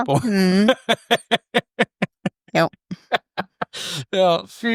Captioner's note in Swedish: skratt